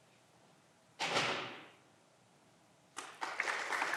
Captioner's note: door closing